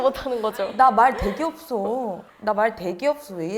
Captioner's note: even as she says it she sounds talkative